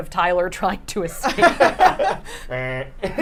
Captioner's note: group laughing